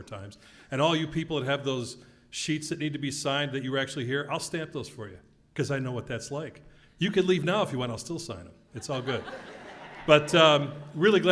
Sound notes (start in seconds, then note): 8.9 laugh